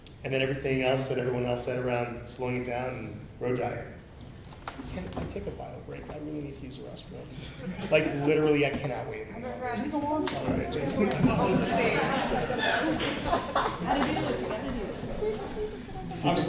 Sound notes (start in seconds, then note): 11.3 laughter